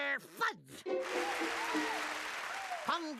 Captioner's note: crowd cheering